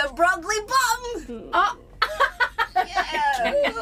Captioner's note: Awkward beat, Aurelia laughs loudly